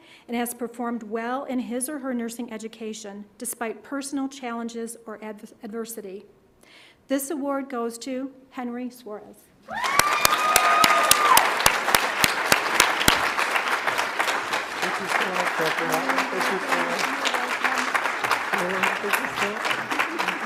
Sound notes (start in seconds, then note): 9.7 audience applauds; 9.7 audience cheers